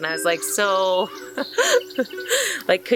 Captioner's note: laugh